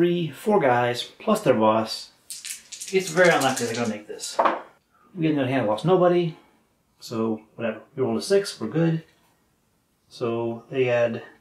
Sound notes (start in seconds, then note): 6.8 clatter